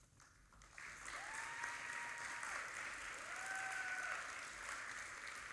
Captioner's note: audience applauding